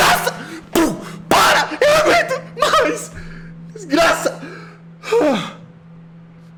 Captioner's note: pow; sighs